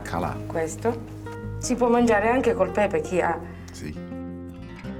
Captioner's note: speaks Italian